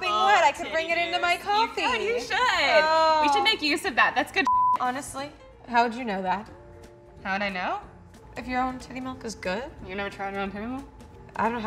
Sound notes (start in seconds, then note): 4.4 beeps